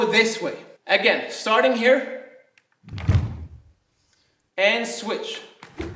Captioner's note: snapping